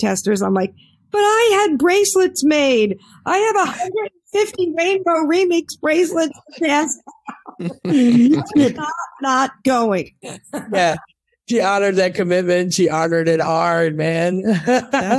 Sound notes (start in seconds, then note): 6.1 laughs